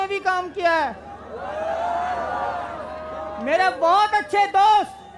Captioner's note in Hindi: चियरिंग